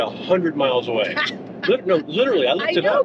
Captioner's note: laughs